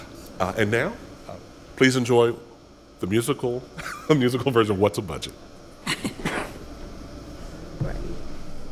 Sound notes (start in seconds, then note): 3.1 laughs; 5.8 chuckling